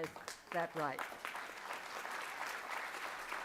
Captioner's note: applause